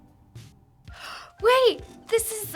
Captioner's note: gasping